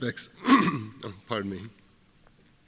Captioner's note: clears throat